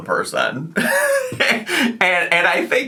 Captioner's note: laughing